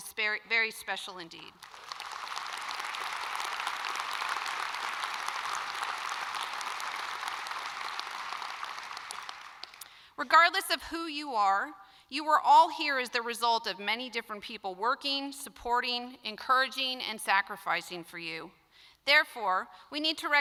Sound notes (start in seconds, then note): 11.1 applause